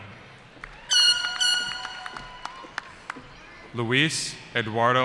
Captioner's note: cheering